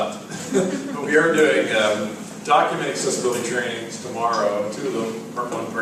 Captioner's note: laugh